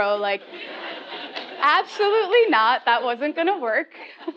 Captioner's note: laugh